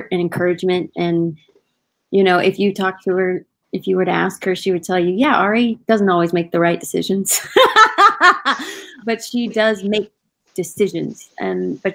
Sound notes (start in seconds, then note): 7.6 laughing